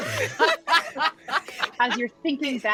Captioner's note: all laughing